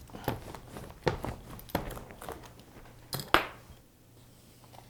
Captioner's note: paper rumpling